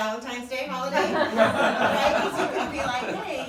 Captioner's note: laughter drowns out speaker